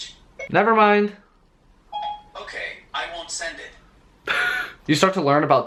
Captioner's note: laughs